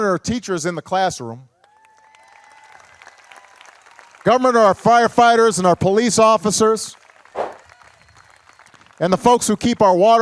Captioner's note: applause